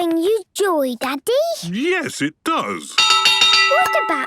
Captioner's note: clanging